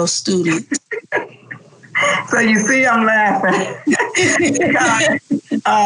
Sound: laughs

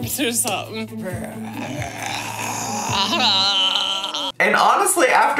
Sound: both snarling and growling

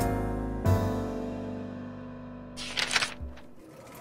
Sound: old film reel spinning

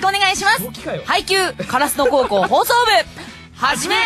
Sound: laughing

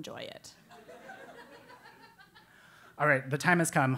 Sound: laugh

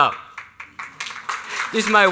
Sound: applause

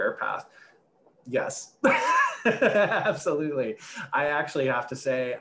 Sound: laughs

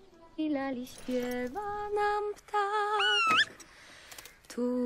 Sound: A bird is singing to us!

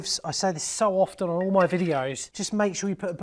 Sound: lid clanks

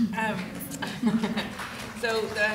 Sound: audience laughing

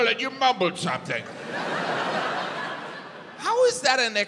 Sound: audience laughs

